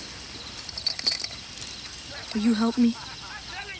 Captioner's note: chain clinks